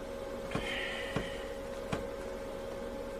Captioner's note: waking up noises